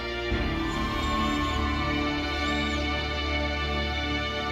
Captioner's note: audience cheering